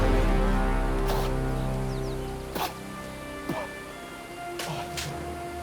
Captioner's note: Hatfield sputters